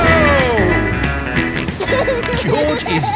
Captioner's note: snorts and laughs